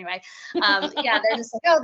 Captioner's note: laughing